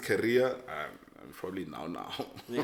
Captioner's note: laughs